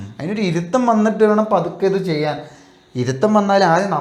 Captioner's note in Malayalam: തൊണ്ട ശരിയാക്കുന്നു